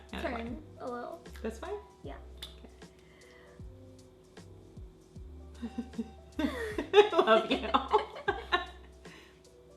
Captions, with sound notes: - Turn, a little. - Is this fine? - Yeah. - Okay. (soft electronic music) (laughs)